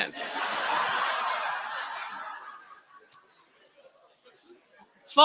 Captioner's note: laughter